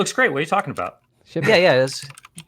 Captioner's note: chuckles